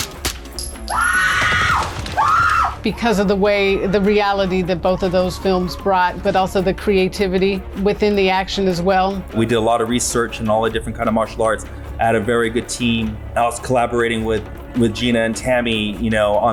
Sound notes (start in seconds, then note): 0.8 screaming